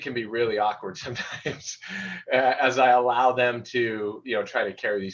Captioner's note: laughter